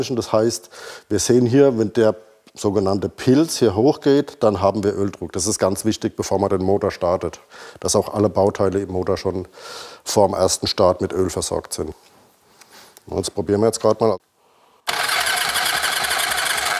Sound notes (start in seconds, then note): 14.8 starter noise